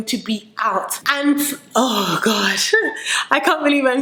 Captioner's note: laughs